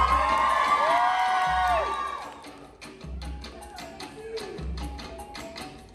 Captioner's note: applause